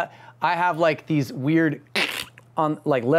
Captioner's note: mimicking squishing noise